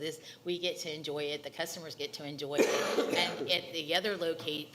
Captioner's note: coughing